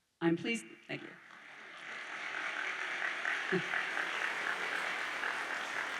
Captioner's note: audience applauds